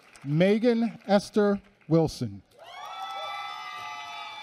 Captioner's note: applause